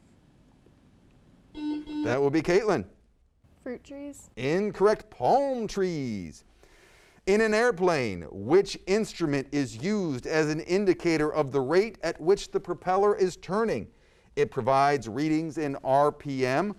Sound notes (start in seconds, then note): 1.5 buzzer sounds